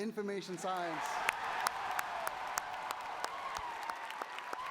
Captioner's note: cheering